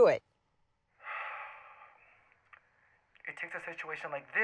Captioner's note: Kevin sighs